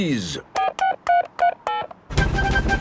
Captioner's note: dialing